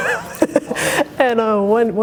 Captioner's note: Chamique laughing